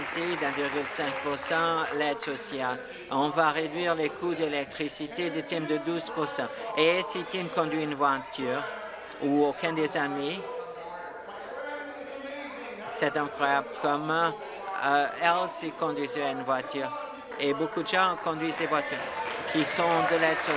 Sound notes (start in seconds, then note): 4.8 applause